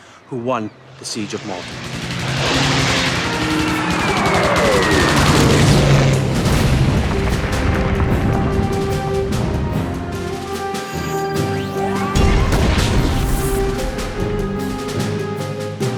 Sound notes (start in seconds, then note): 2.5 gunshot fire; 5.6 airplane explodes; 7.1 theme music